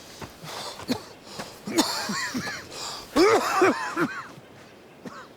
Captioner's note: Preston coughing